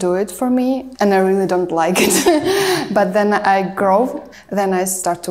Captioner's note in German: lacht